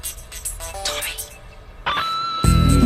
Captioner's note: whispering